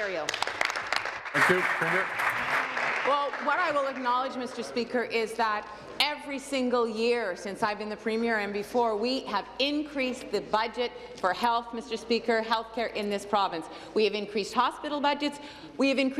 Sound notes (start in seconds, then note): 4.0 applause